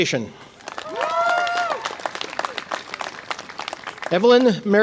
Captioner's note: audience applause and cheer